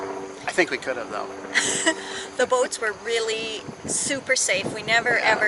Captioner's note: laughs skeptically